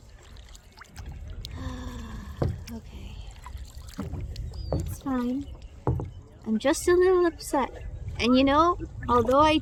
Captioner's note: sighs